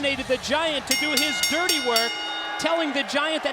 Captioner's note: bell rings